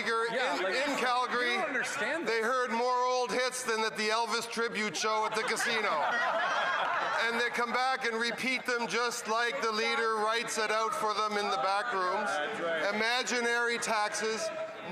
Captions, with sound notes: from the top. The honourable government house leader. >> Well, Mr. Speaker, in Calgary they heard more old hits than the Elvis tributes show at the casino. [Laughter] and they come back and repeat them just like the leader writes